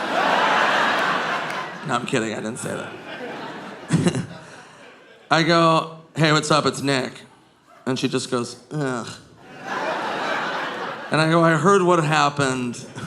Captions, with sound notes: (audience laughing) No, I'm kidding. I didn't say that. (chuckles) I go, "Hey, what's up? It's Nick." And she just goes, "Ugh." And I go, "I heard what happened.